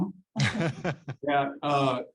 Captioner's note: laughs